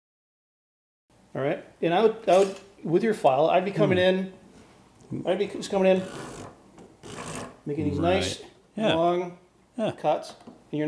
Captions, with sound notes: - All right? And I would, with your file, I'd be coming in. (file scrapes) - Making these nice-- - Right. - Long cuts.